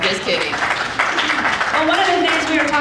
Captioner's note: audience applauding